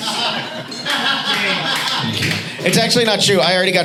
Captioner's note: audience laughs